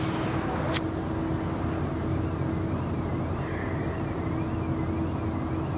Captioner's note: street noise